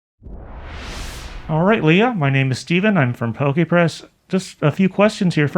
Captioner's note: wooshing noise